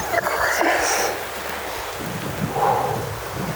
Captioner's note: exhales